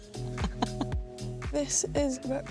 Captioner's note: laughter